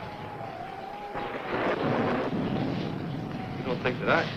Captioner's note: thunder rumbling